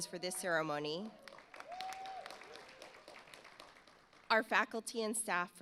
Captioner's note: audience applauds